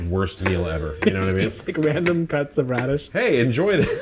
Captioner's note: laughs